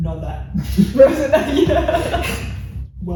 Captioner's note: laughs